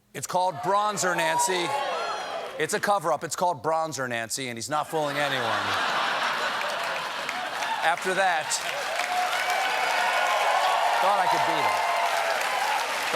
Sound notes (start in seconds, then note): 5.4 cheers and applause